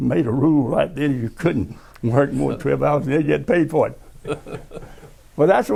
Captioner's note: laughter